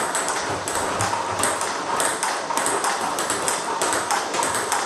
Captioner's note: ball ping pong hitting continues